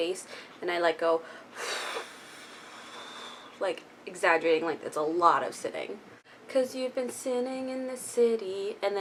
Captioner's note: blows out air